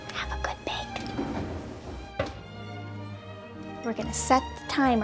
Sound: oven closing

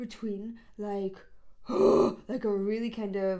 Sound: person growls

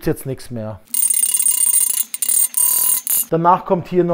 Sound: hammer sounds

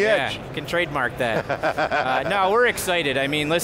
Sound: laughing

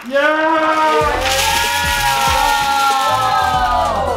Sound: cheering

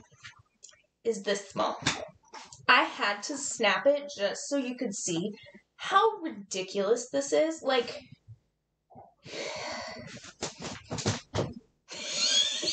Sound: wheezing

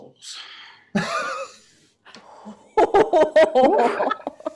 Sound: panel laughs

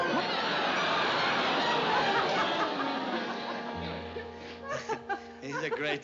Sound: laughs

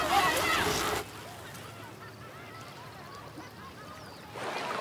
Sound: nature sounds; shouting continues

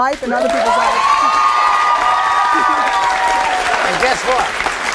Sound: audience applauding; cheering

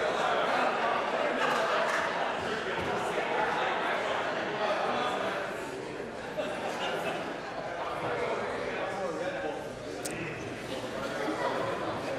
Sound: applause; conversation din

